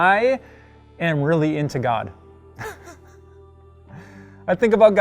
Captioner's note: laughs